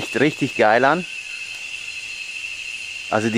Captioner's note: jungle sounds